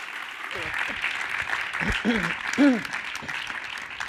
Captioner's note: applause